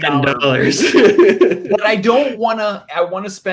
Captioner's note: laughs